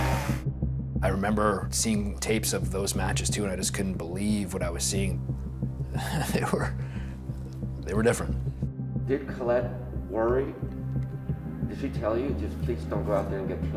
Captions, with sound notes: - I remember seeing tapes of those matches too, and I just couldn't believe what I was seeing. [chuckling] They were... They were different.